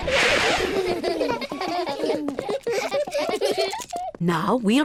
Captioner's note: all laugh